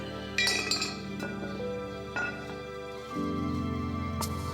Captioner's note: metal clanking